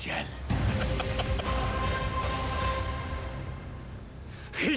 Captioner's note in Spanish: risas